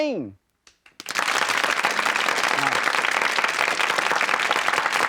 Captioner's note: crowd applauding